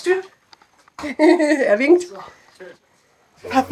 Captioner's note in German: lachend